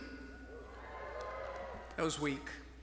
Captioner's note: graduates mild cheering